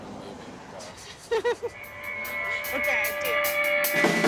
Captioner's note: Charlotte laughs; upbeat rock music